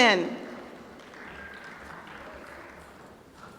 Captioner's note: applause